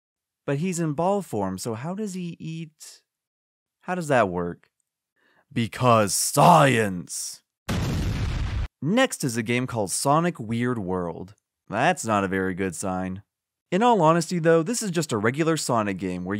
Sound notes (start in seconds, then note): 7.6 explosion